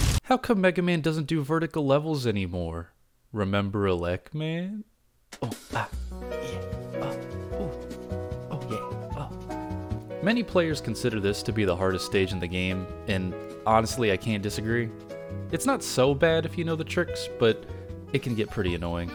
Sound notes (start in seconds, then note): 5.4 Adam West Sounds